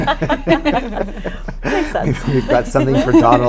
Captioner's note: laughter